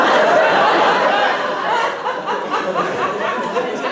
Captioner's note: laughter